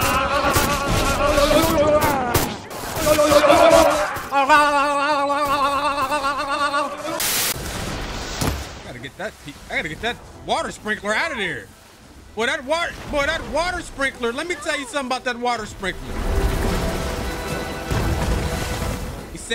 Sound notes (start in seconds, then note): 4.3 mimics characters; 15.7 dramatic orchestra music